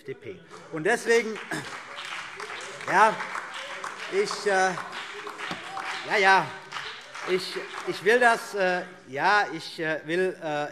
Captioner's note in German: Beifall BÜNDNIS 90/DIE GRÜNEN und DIE LINKE - Zurufe Freie Demokraten